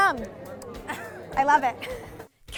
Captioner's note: laughing